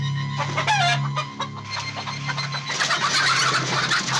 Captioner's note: chickens clucking